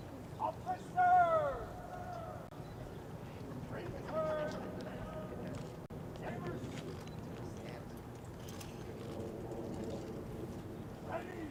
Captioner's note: shouted commands